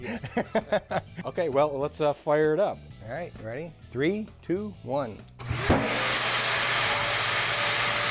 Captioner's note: laughing; mechanical startup